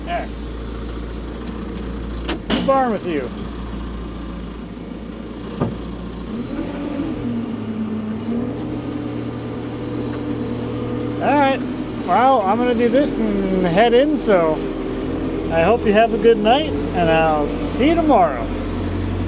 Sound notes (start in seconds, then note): 6.5 machinery rumbling